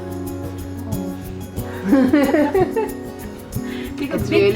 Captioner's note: both laugh